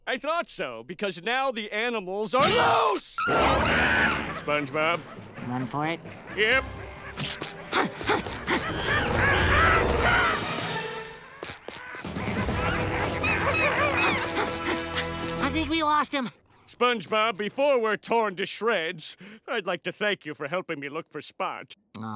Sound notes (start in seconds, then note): 3.3 growling; 6.8 panting; 7.8 growling